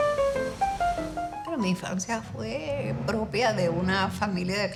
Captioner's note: speaking in Spanish